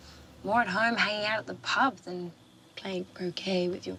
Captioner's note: none